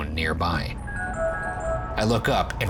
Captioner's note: ringtone plays